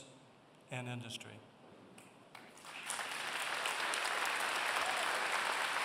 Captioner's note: applause